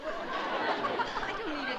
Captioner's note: laughter